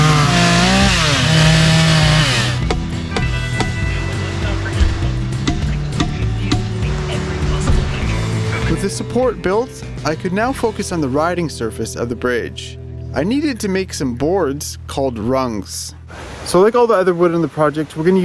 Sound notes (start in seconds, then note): 0.0 chainsaw whirring; 2.8 hammering